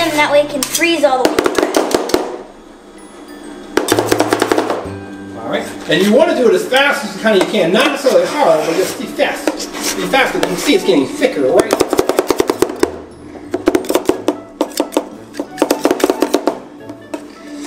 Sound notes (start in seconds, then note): 3.8 spatula chopping; 13.5 spatulas chopping